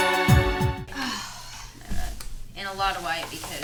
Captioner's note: sighs